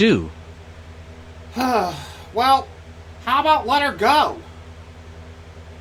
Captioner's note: sighs